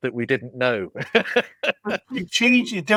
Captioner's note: laughs